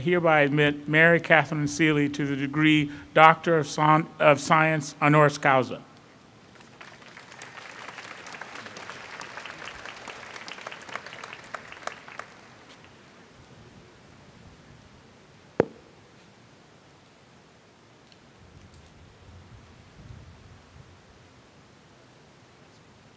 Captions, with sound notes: I hereby admit Mary Katherine Seely to the degree, Doctor of Science honoris causa. [applause] [pause]